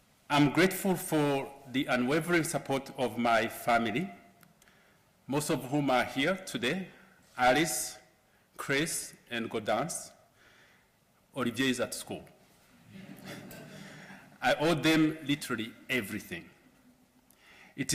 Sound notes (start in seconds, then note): 12.8 laughter